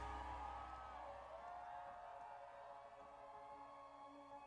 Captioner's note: crowd cheering